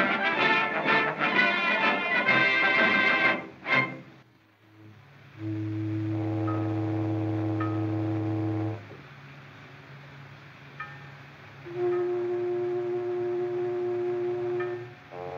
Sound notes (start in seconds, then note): 5.3 ship Horn Blowing; 10.9 buoy Bell Ringing; 11.6 ship Horn Blowing